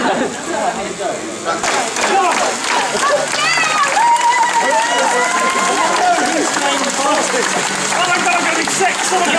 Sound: laughing, screams, general cycling noise

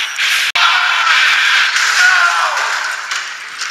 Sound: screaming

